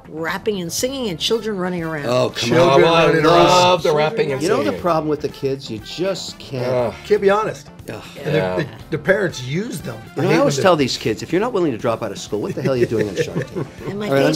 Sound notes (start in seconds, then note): 1.8 arguing